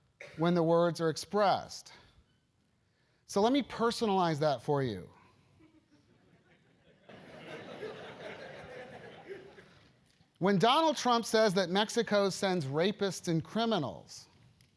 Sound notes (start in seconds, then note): 5.6 laugh